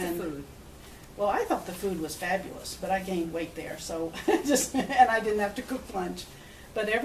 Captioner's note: laughs